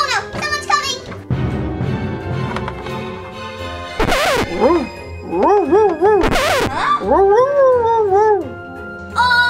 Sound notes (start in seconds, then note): 0.0 footsteps clapping; 1.6 scary music; 5.3 dog barking; 7.0 assistant gasping; 7.0 dog barking